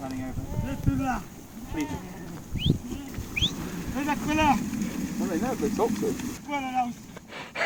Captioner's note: whistling